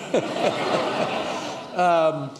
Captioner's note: laughter